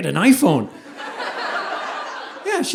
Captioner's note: audience laughing